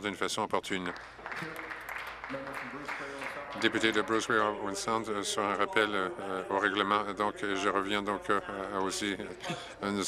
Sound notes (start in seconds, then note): 3.5 applause